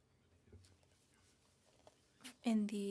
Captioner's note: speaking French